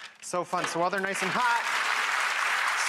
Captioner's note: audience clapping